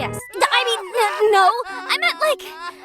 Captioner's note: N sobbing noises